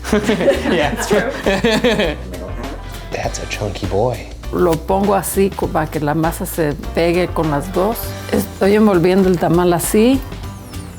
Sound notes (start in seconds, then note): 0.0 laughing loudly; 4.7 speaks in Spanish